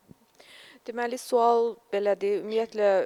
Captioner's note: non-english speech